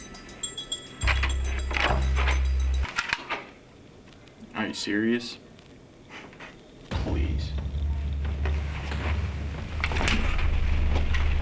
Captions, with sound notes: Are you serious? (scoffs) Please. (ominous music)